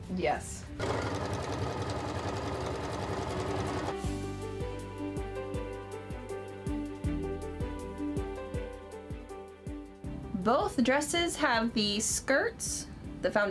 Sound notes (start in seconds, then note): 0.8 sewing machine running; 4.0 upbeat music